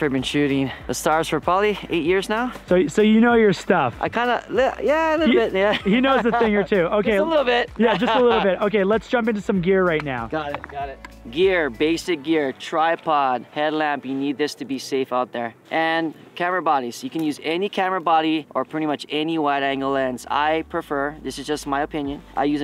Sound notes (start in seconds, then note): 5.2 laughs